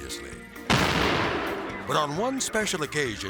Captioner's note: dynamite explodes